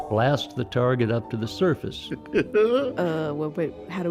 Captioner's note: laughs